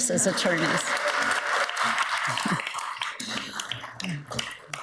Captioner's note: audience applauds